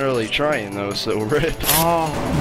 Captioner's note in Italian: effetto sono di uno strappo di nastro adesivo